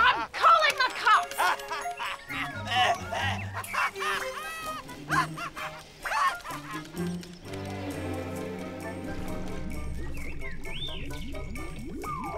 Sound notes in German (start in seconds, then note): 0.1 Lachen; 2.8 Lachen; 4.0 Husten; 4.8 Lachen